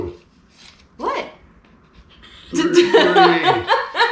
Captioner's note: laughing